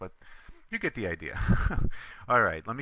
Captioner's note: laughter